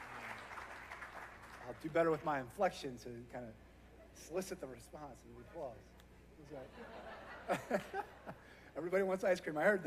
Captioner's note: applause